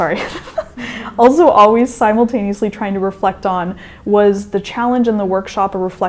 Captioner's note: chuckle